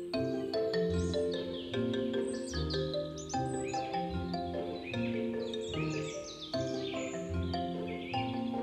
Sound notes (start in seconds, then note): 2.9 birds chirp